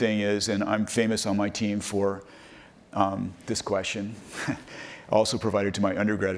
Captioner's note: laughs